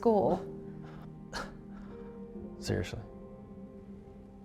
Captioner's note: scoffs